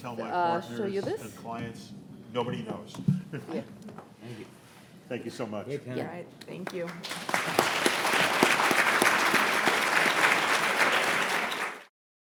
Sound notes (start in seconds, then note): 6.6 audience applauds